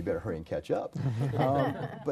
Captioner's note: group laughter